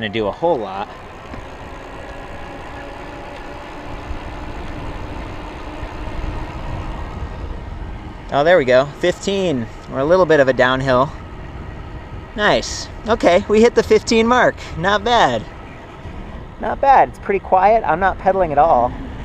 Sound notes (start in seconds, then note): 1.5 motor sounds